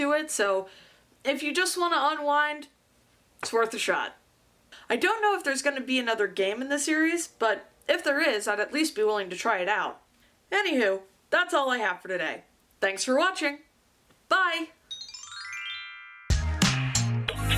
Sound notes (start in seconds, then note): 14.8 chime; 15.0 chill music